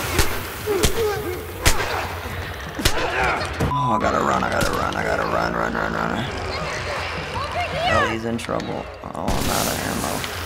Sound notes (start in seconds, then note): 0.0 punches land; 2.4 Joel grunts; 4.1 Clickers croak